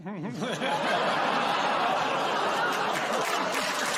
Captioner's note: audience groans; applause